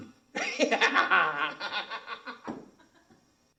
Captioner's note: laughing